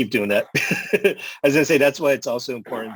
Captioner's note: laughter